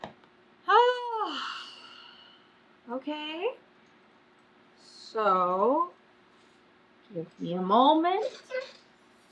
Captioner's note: exhales loudly